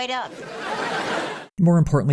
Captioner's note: audience laughter